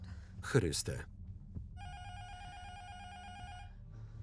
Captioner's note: intercom buzzer rings